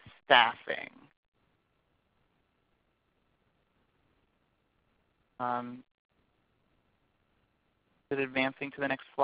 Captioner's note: silence